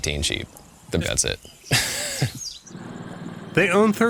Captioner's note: chuckles